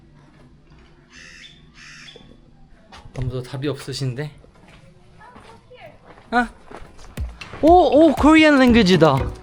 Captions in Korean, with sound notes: (완벽한 까마귀 울음 타이밍) ..아무도 답이 없으신데? 어, 일로 와봐! ??? 오? 오 한국어가 있다..!